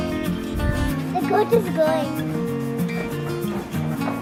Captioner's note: footsteps